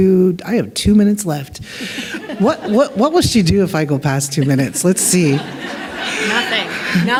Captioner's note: laughter